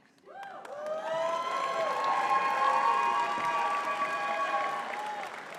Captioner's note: audience cheering and clapping